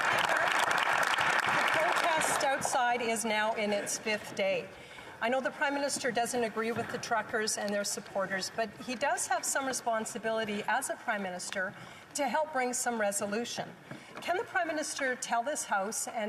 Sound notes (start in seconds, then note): 3.2 applause